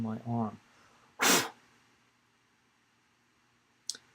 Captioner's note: blows air